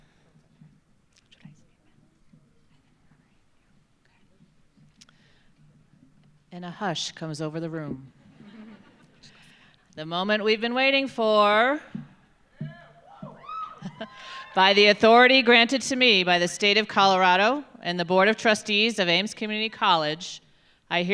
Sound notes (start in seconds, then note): 8.3 audience chuckles; 12.7 audience cheering